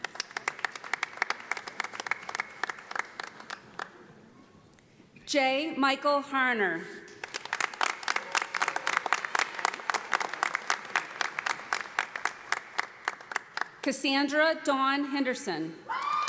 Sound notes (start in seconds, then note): 0.0 audience applauding; 7.2 audience applauding